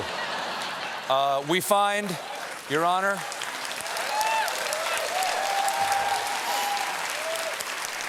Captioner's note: applause